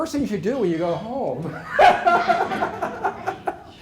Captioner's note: laughter